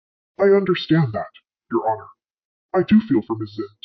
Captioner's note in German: verzerrt